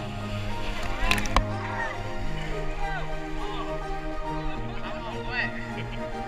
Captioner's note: shouting, laughter